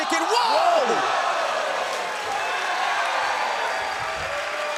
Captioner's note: crowd cheers